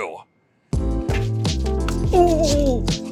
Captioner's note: relaxing rhythmic music; nun chuck hitting